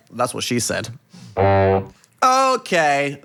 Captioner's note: horn soundbite plays